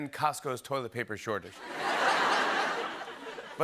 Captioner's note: laughter